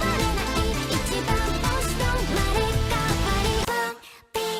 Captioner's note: speaking in foreign language; upbeat music